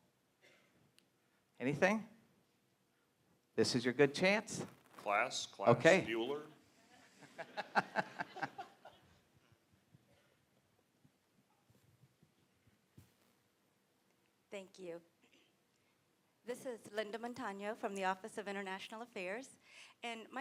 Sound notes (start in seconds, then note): 7.0 laughter